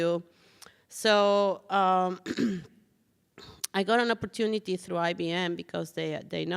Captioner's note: clears throat